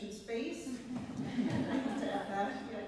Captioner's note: laughter